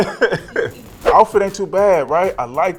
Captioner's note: laughs; air whooshing